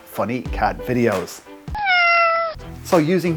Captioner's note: meowing